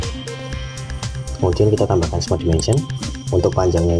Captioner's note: click